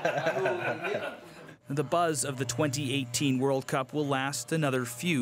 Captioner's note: laughter